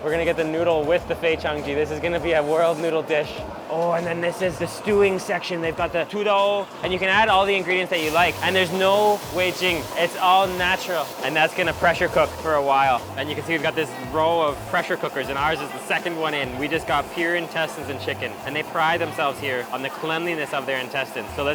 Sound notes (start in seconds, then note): 6.1 speaks in a foreign language